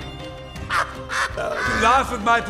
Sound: laughs

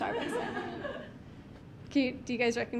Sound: audience giggling

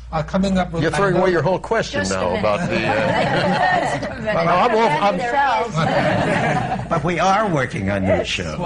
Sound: laughter

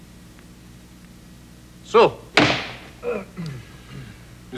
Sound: slams desk

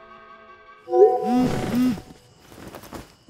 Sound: text message sound

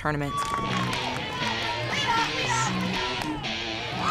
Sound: crowd cheering

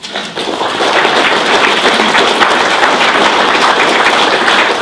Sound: applause

